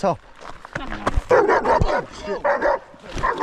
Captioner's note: dog barking